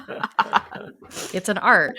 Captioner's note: everyone laughs